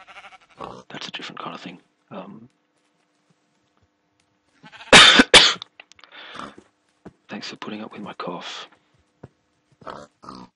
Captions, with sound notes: That's a different kind of thing. Um [coughing] Thanks for putting up with my cough